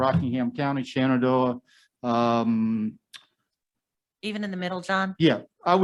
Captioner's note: someone speaking in the background